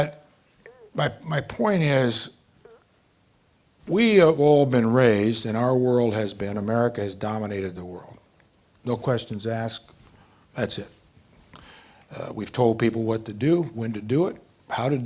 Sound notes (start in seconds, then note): none